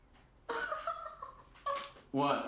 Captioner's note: Cathy laughing